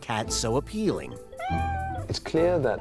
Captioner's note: meows